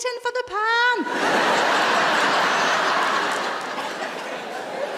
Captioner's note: audience laughs